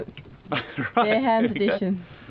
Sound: laughing

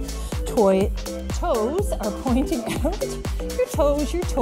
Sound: laughs

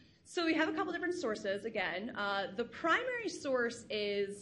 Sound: none

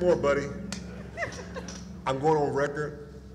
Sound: laughter

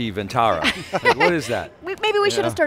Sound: laughing

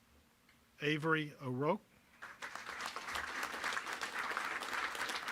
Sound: applause

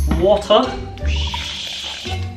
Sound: very convincing sound that indicates water

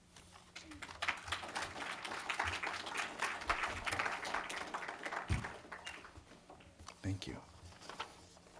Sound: clapping

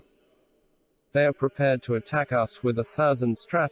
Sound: voice reads

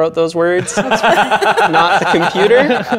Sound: laughing

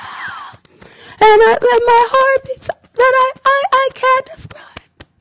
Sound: beating Chest

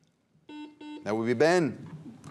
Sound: buzzer beeps

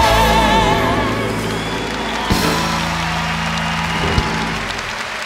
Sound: cheers and applause

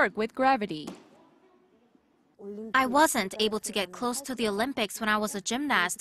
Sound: Korean

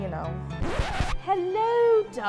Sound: record scratching

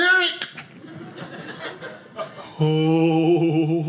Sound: audience laughing

